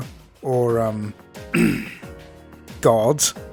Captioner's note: clears throat